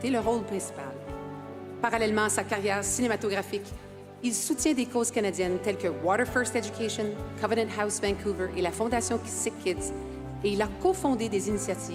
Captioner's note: speaking French